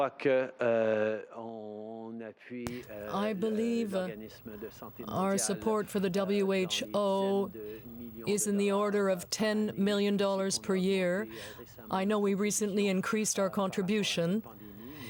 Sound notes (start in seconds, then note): 4.1 speaking french